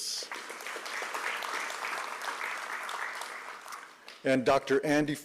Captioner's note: applause